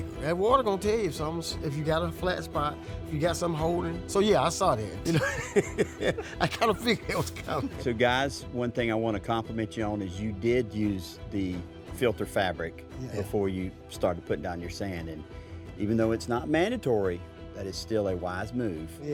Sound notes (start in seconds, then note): 5.0 laughs